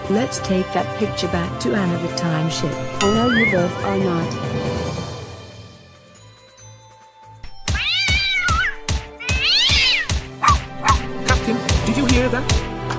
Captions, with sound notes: Let's take that picture back to Anna the Time Ship! Oh no you both are not! (Cat yowls loudly) (Pip barks) Captain, did you hear that?!